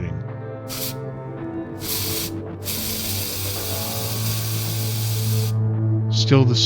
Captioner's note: spraying